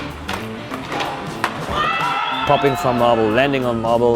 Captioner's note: cheering